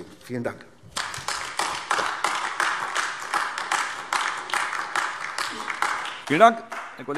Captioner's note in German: Beifall AfD